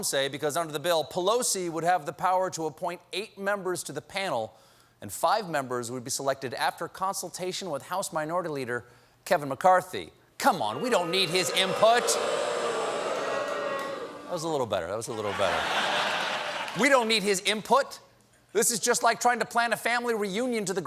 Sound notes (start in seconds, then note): 10.6 booing; 15.1 laughter